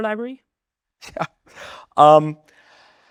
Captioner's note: laughs